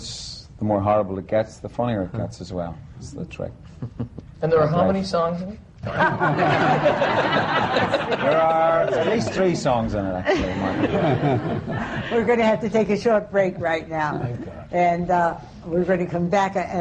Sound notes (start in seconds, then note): 5.8 laughter